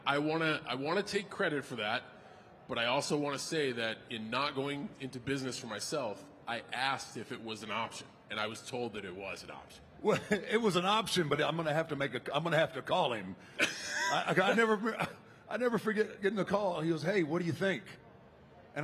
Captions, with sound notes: I want to take credit for that, but I also want to say that in not going into business for myself, I asked if it was an option, and I was told that it was an option. Well, it was an option, but I'm gonna have to make a, I'm gonna have to call him. (Cena laughing) I never forget getting a call. He goes, "Hey, what do you think?"